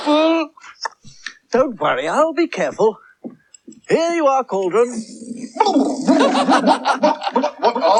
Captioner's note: cauldron Splutters In Surprise; releases Air From Balloon; Toby Laughs